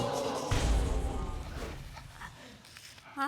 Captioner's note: audience exclaiming